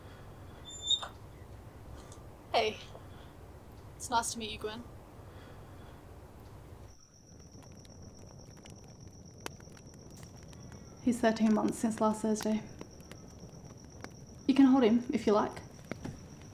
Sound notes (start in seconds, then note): 0.1 door opening; 6.7 fire crackling